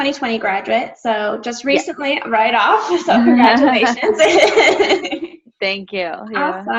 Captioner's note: laughs